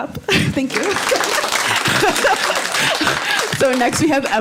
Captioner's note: audience applauding